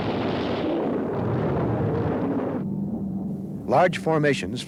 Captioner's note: shells boom